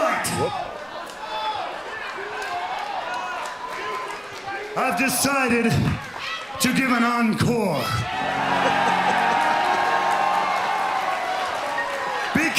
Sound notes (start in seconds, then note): 7.8 crowd cheering